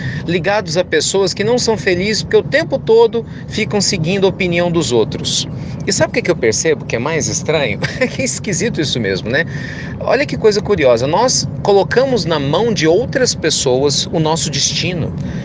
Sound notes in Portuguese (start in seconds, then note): 7.8 Risos